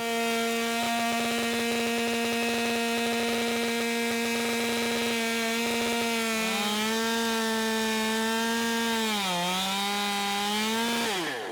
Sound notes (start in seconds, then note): 0.5 saw buzzing